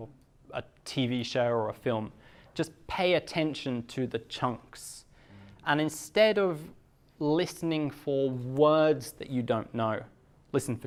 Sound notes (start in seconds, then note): none